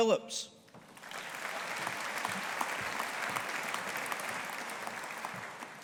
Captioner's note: audience applauding